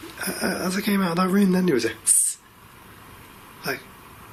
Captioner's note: hissing